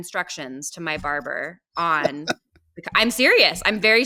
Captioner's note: laughing